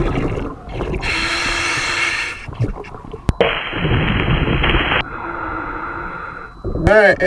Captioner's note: water burbling; regulator hissing